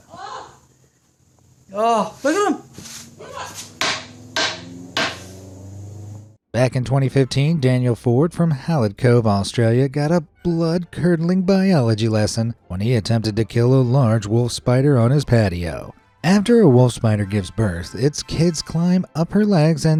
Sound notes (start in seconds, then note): 4.9 broom slamming floor